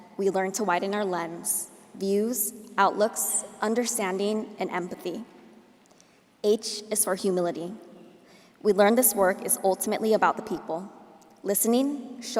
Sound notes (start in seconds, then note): none